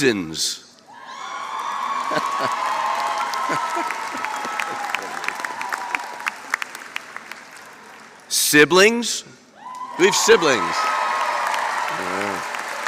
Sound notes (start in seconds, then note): 0.0 applause; 2.0 laughter